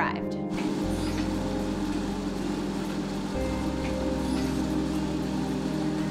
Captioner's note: treadmill whirring over dramatic electronic music